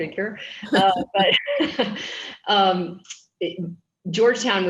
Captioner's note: chuckles